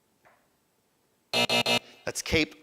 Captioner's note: buzzer buzzing